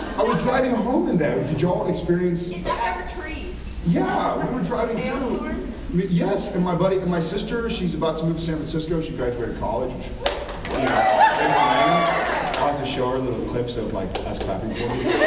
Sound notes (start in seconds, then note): 10.6 cheers, applauds; 14.8 laughs